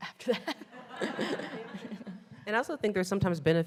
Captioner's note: all laughing